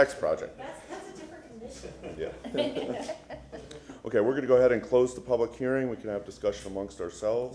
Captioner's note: laughter